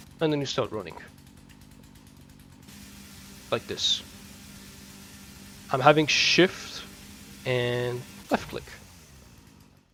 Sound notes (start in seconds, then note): 0.0 chainsaw noises; 2.9 more chainsaw noises; 4.0 even more chainsaw noises; 8.1 chainsaw off